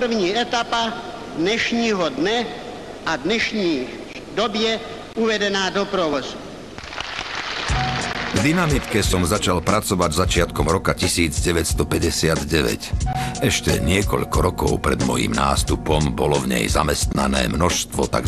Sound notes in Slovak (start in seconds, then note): 6.7 Potlesk